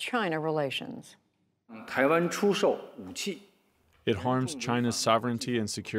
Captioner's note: through translator